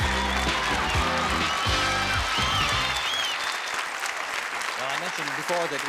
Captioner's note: applause and cheering